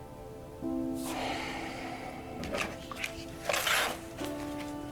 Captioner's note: Joseph sighs